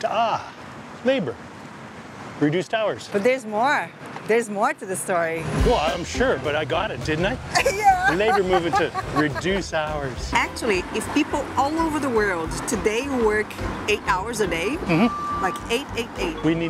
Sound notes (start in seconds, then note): 7.5 laughs